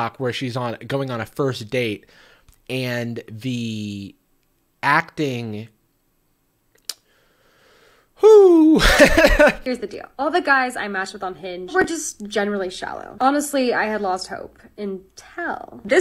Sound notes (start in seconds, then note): 8.2 laughs